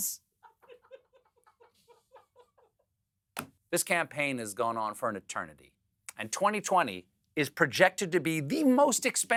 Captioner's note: laughter